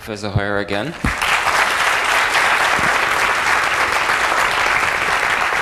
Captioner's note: applause